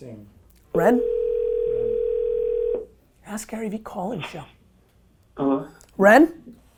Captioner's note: phone ringing